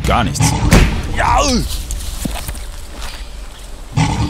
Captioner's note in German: Knurren